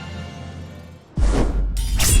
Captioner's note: swoosh